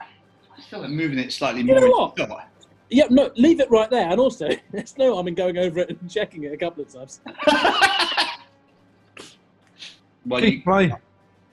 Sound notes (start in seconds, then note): 7.2 laughter